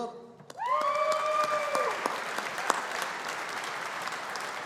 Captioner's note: audience applauding